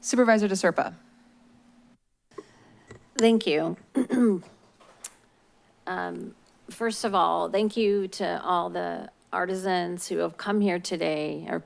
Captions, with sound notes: - Supervisor De Serpa. - Thank you. [clears throat] First of all, thank you to all the artisans who have come here today,